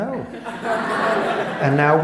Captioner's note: laughter